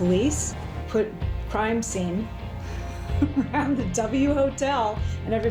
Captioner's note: laughs